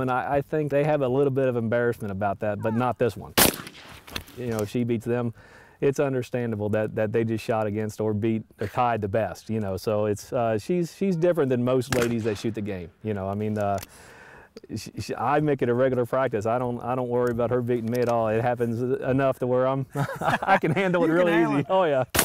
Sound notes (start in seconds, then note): 3.6 bang; 19.9 laughter